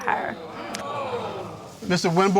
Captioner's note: audience gasping